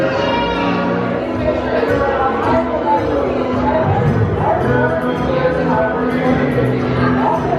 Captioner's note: people chattering; cartoons playing